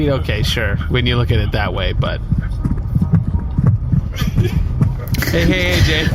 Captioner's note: continues running, panting outside the car